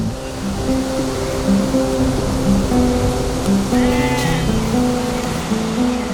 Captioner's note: sound of stream flowing